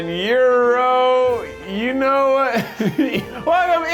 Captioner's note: laughs